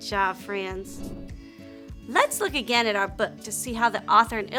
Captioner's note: air whooshing